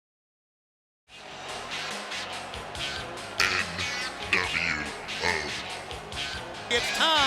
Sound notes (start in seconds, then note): 1.1 crowd faintly cheering; 1.4 mid-tempo rock music